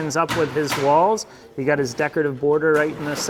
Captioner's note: hammer thudding